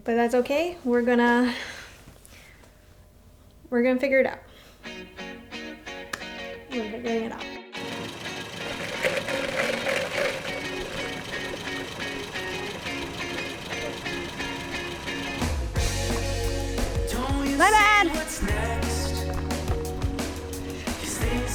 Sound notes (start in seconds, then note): 7.9 ice clattering; 8.3 car chugging; 11.2 upbeat music; 16.2 lively music